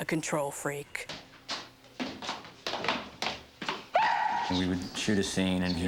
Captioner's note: on-screen yell; footsteps; yelp